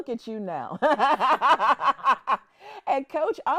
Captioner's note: laughing